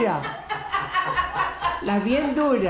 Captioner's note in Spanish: Risas